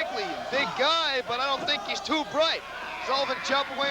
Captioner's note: crowd cheering